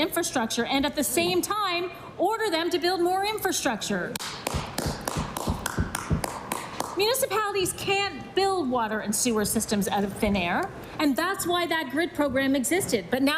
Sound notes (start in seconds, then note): 7.4 applause